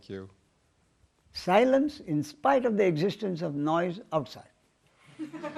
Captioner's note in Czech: smích